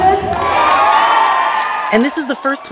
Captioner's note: crowd cheers